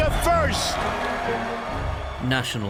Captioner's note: raucous applause